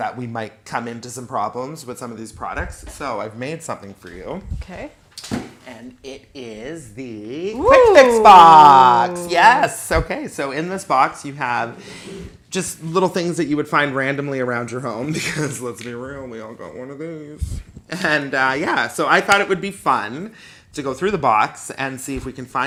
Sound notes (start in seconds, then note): 7.5 oooh!